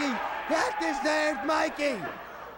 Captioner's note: crowd chatter